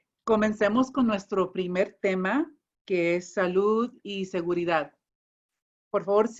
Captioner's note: speaking in foreign language